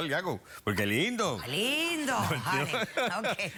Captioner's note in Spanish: risas